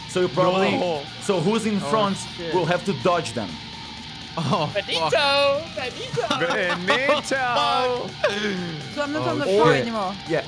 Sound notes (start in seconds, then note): 6.0 risos